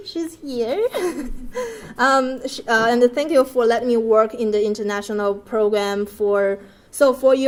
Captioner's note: laugh